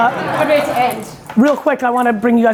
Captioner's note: audience laughing